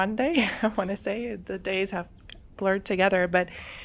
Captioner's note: laughs